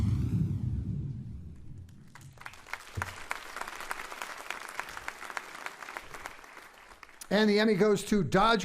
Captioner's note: applauding